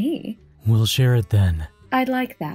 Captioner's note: confident